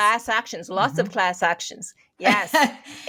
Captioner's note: laughing